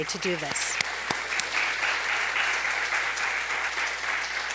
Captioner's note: applause